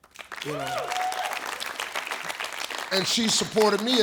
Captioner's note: audience cheers